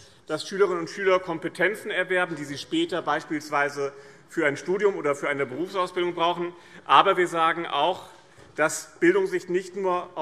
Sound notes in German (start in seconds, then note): none